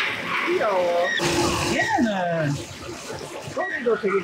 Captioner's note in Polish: nagle dialektem Gyeongsang-do